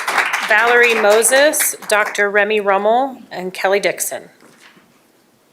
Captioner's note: applause